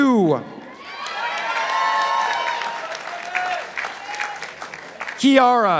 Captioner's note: participants applauding